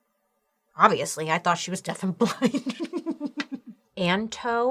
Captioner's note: laughs